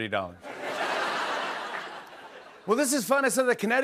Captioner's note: laughter